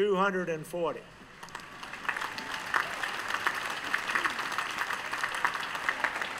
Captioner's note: applause